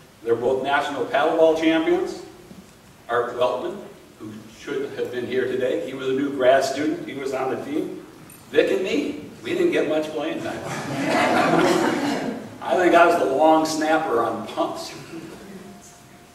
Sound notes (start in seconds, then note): 10.5 laughing